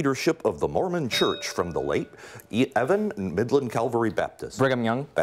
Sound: bell rings

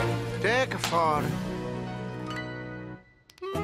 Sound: clap; introduction to song playing

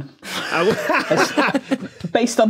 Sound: laugh

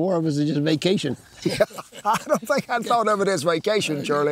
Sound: laughs

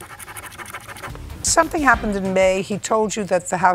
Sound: scribbling

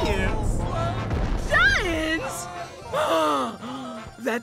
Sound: gasping

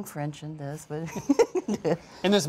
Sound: laughing

